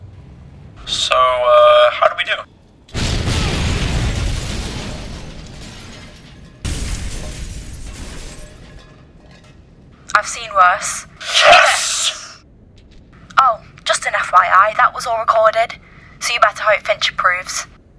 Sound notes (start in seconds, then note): 2.9 Warthog explodes; 12.2 cheering